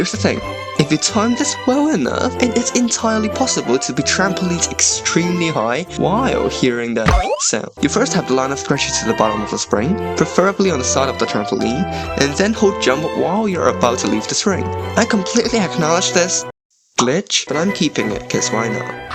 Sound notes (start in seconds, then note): 7.1 boing